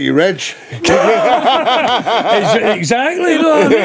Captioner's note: laughing